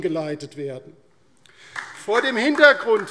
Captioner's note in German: Beifall DIE LINKE